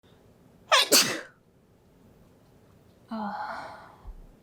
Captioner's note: sneeze